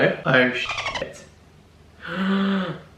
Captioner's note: dolphin squeaks